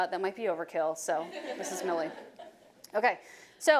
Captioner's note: audience laughing